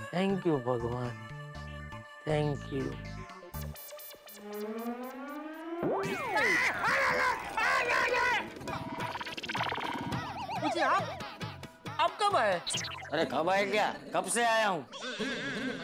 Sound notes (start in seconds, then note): 6.2 screaming in pain